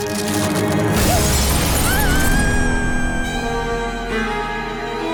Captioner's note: screaming